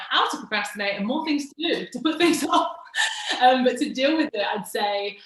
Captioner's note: laughs